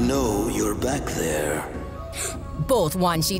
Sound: gasp

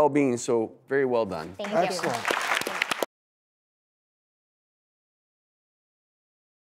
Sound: clapping

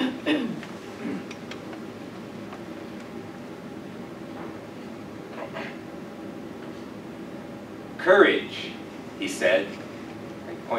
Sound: cough

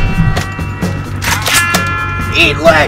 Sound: shotgun loads

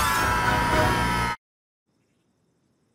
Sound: all screaming

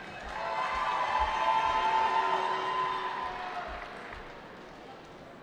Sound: cheering

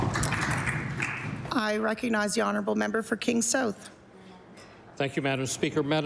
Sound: applause

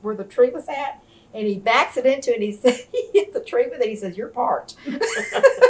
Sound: laughter

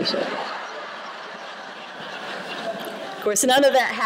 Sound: laughter

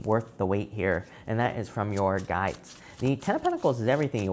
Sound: cards shuffling

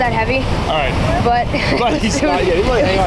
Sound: laughing

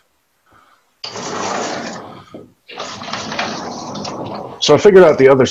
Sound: sliding door scraping

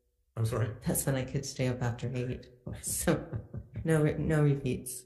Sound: chuckles

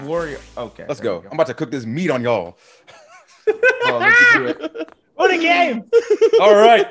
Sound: laugh

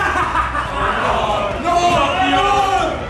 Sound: maniacal laughing; crowd exclaiming

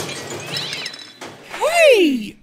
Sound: glass breaks; cat wails

